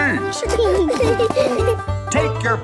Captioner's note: laughing